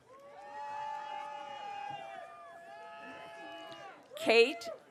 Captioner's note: audience cheering